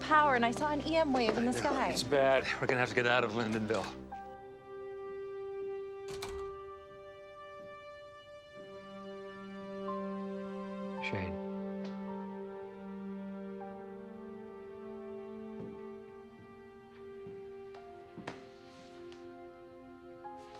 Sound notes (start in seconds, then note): 6.0 door open close; 7.9 bowed string instrument